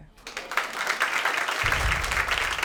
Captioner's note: audience applauding